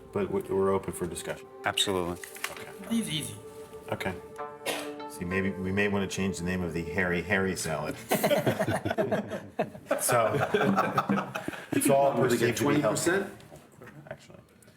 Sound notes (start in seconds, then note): 7.9 laughing